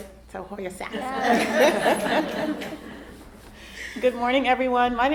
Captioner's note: all laughing